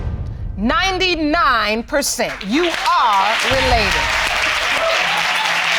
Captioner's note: audience applauding